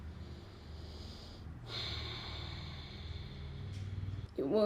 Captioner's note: sighs